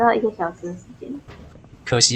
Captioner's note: 1006 Distant Knock